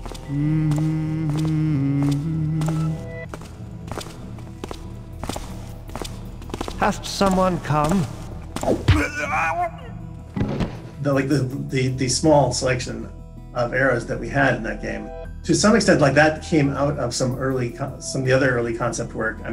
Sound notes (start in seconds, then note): 0.0 guard humming; 8.8 death groans